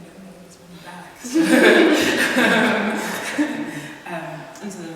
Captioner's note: laughter